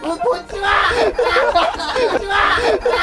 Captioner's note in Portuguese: Gritos